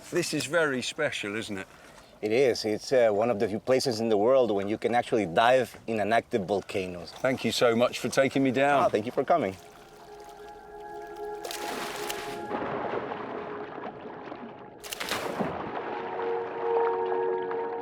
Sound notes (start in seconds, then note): 12.2 ominous music; 13.2 water splashes